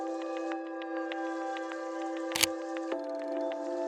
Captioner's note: camera clicking